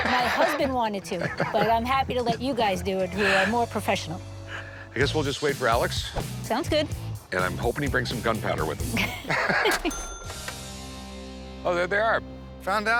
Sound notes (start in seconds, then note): 8.8 laughs